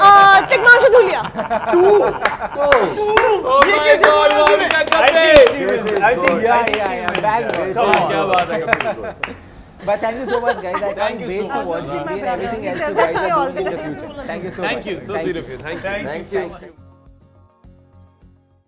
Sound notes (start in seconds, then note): 4.8 all applausing